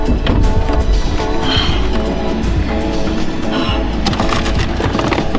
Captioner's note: Kristen sighs